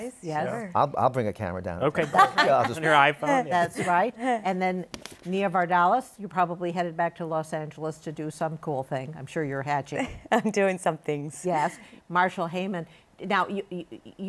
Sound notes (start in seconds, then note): 2.0 laughter; 10.3 chuckles